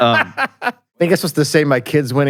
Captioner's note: laughs